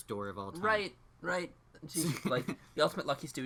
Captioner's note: laughs